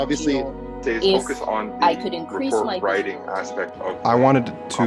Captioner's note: several students talking